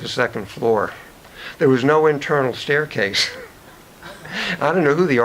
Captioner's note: chuckles